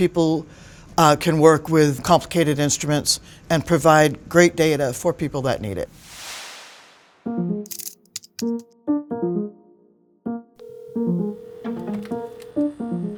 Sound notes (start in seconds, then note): 7.7 typewriter keys clicking; 8.4 bright piano music; 10.6 phone ringing